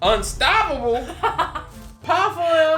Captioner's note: laughs